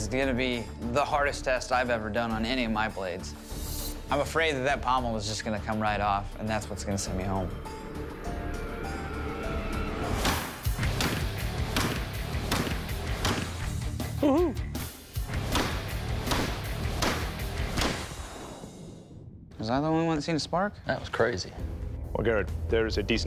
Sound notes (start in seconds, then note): 9.8 thudding; 13.0 thudding